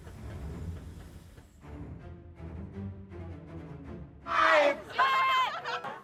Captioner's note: lightning crackling; train chugging; dramatic music; crowd